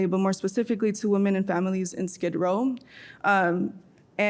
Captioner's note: none